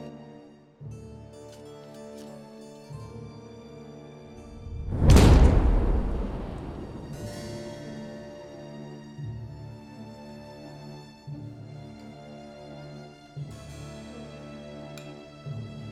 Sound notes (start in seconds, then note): 4.9 shovel striking; 8.1 soft music